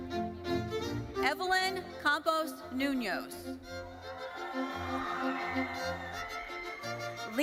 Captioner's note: audience cheering